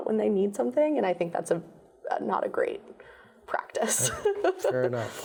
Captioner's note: laughs